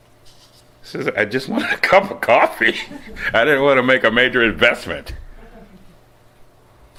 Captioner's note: laughs